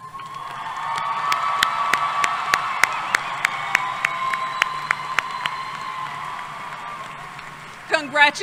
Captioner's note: applause